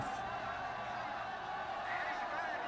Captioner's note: crowd screaming